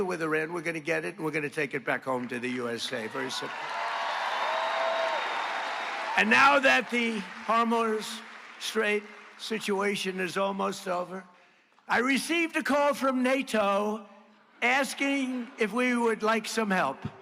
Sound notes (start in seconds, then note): 13.4 applause